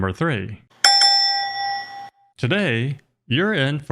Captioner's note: bell ringing sound effect